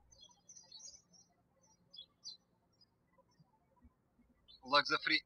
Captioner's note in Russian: птички щебечут